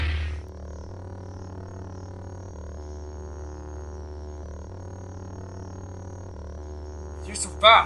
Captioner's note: sounds of a glowing fighting knife